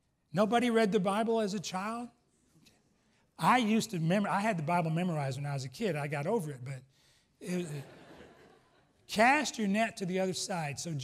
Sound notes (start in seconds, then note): 7.1 laughs